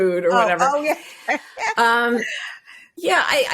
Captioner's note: chuckles